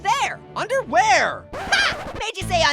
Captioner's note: record scratch noise